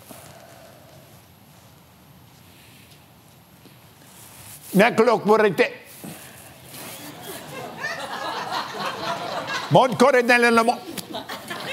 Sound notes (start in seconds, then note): 0.3 foreign language; 4.8 laughs; 6.6 foreign language; 10.8 laughs